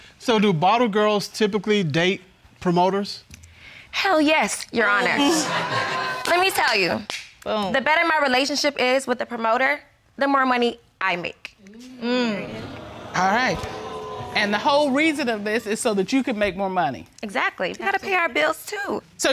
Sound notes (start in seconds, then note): 5.1 audience laugh; 12.4 audience exclaims